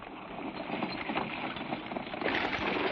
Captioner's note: horses trotting